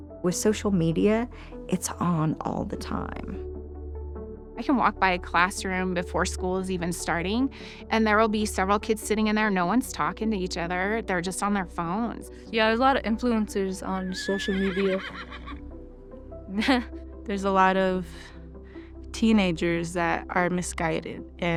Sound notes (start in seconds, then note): 14.1 horse whinnies; 16.8 chuckles